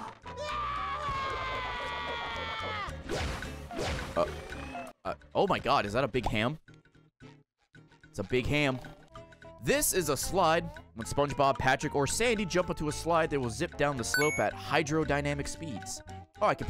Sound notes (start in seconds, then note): 0.2 screams